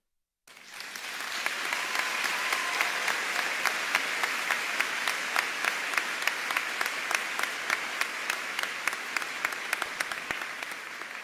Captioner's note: applause